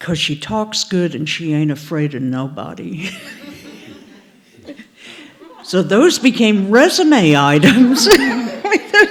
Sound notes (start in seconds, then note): 3.0 laughter